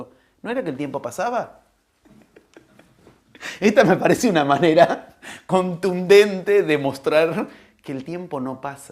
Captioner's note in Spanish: risas